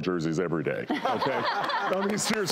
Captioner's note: laughing